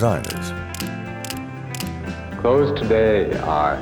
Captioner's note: camera clicking